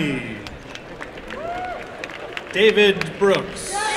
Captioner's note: applause and cheering